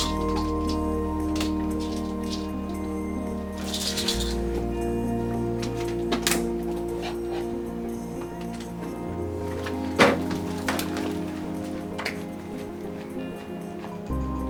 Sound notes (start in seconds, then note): 0.3 dramatic, quietly tense electronic music; 9.8 door slams shut; 12.2 dramatic electronic music